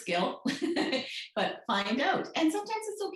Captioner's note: laughs